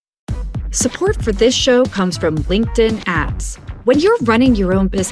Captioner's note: voiceover